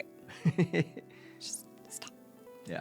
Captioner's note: laughing